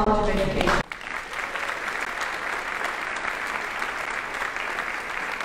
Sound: audience applauding

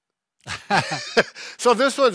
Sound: laughing

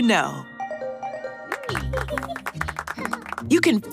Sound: clapping

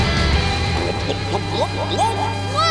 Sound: gobbling

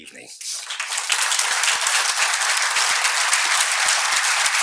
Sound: audience appluading

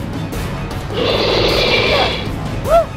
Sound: roar

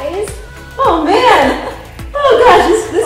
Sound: laughing

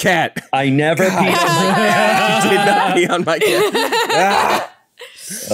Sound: all laugh

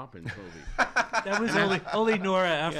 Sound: laughs

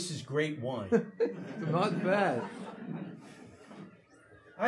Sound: audience laughing

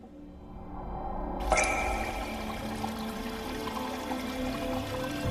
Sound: water cascading

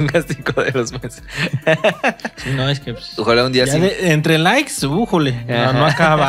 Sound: laughs

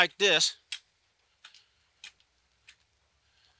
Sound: hoe scraping

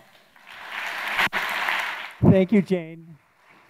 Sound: audience applauding

